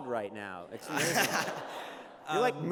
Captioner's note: laughter